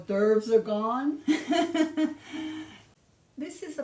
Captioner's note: laughing